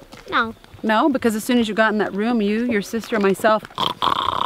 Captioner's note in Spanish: zzzzz